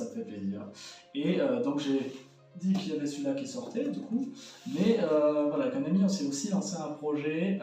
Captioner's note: in french